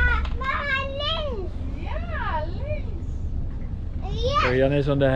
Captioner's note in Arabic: يتحدث الهولندية